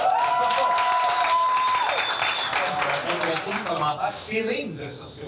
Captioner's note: shouts and applause